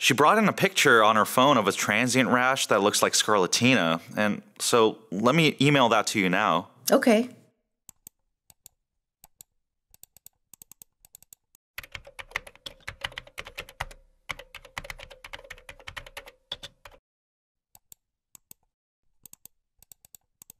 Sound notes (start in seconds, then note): 8.9 mouse clicking; 11.8 typing